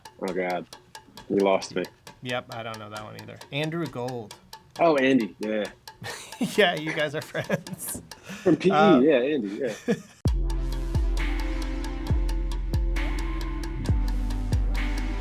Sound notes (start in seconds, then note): 9.4 laughter